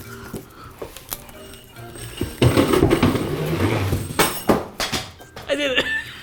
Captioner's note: metal slides and clangs out of the box; laughs